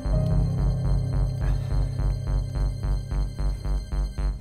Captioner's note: Sighs